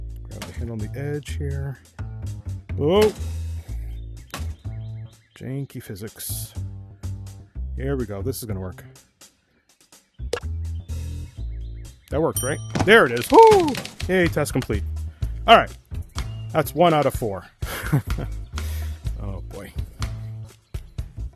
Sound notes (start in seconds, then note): 9.1 plop; 12.4 ding; 17.6 laughs